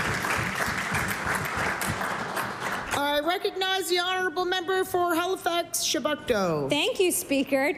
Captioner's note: applause